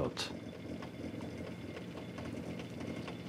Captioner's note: boiling crackling